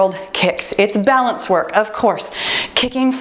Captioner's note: timer beeps